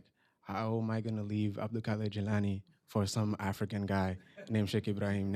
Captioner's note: non-english